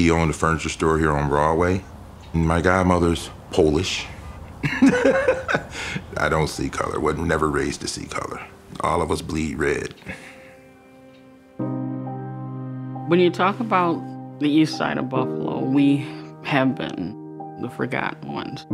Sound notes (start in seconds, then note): 4.4 laughs